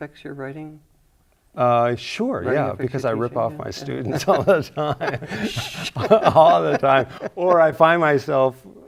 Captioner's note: both chuckle